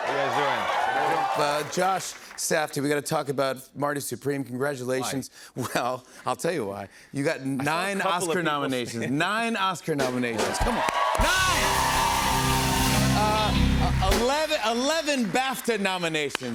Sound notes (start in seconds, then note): 10.3 cheers and applause